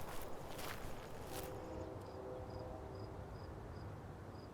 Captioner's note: distant train horn blares